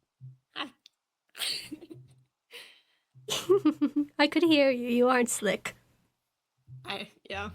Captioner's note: giggles